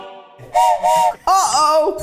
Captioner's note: whistle blows